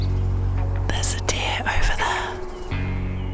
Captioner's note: whispering